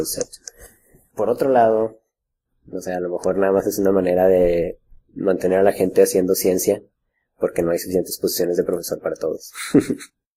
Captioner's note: laughs